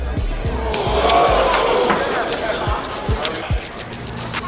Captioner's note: audience gasps